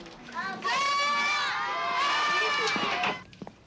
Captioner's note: children screaming